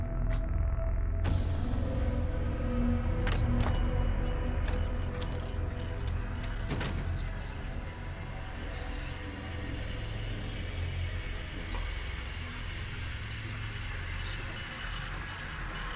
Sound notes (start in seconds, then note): 3.3 door bell chiming; 8.4 indistinct chatter, machines whirring